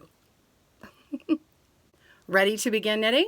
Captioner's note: laughs